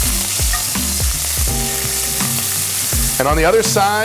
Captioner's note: oil sizzling